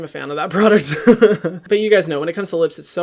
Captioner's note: laughs